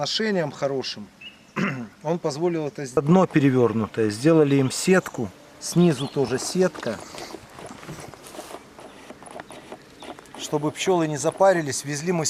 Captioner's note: bees